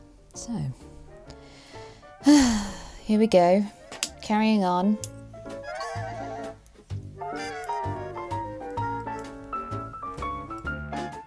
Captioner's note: sighs